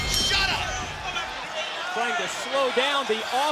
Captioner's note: bell ringing